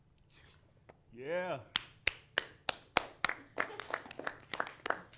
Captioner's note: claps